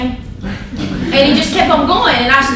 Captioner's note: laughter